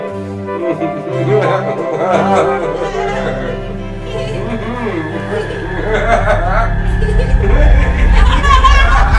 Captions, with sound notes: (Laughing) Hee hee! Hmm mm! (Suspenseful music builds) HA HA!